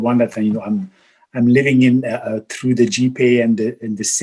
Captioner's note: murmurs